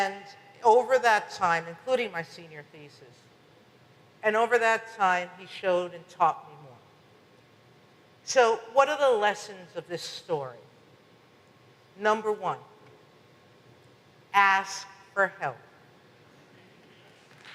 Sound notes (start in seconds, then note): 14.2 audience applause